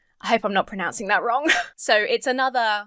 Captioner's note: huffs